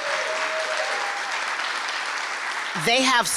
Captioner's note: applause